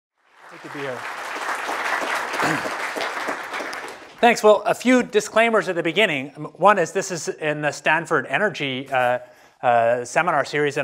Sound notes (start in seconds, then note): 0.2 applause